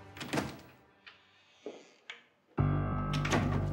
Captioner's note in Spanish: Sonido al abrir la puerta